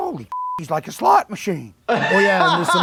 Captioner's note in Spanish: se ríe